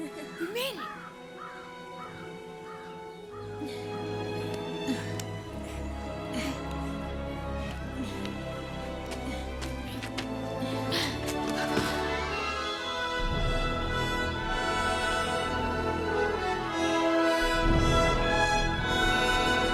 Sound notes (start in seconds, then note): 3.4 grunting